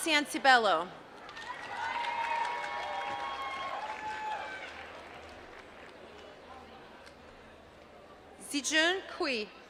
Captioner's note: applause